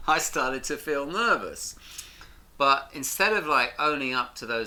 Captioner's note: none